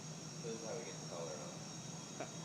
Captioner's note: background noises including faint sounds of fire